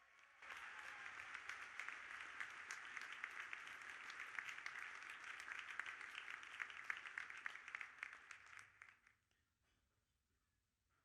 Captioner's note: audience applauding